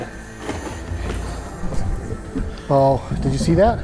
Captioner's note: creepy unnatural noises